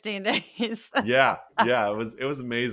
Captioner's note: laugh